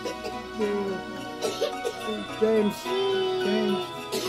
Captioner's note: coughing